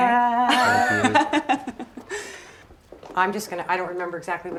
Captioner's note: Isabel laughing